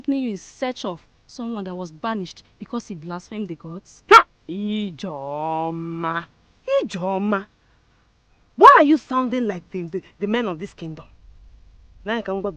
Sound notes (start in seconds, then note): none